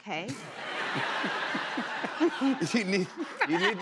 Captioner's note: laughter